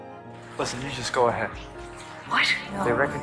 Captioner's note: voiceover